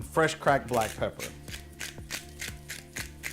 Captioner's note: grinding; mellow music